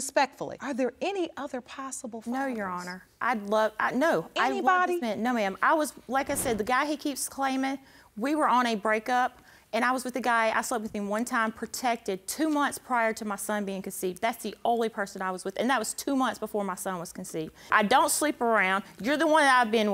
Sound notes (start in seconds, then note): 2.9 stammering